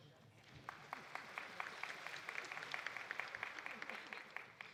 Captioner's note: audience applauding